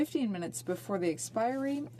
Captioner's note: speaking French